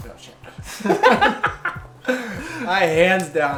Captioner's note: both laugh